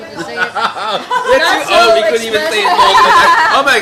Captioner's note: all chattering